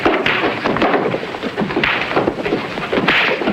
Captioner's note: fist pounding